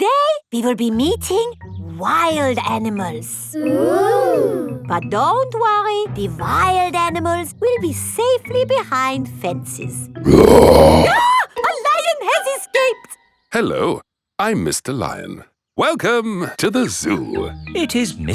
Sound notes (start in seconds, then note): 10.2 roars; 10.3 screams